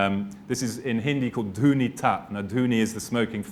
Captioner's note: speaking hindi